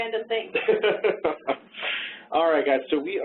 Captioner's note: laughing